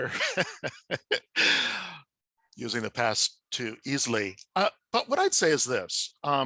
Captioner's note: laughs